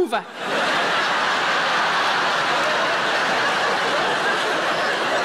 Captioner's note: audience laughing